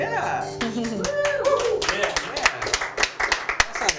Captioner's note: applause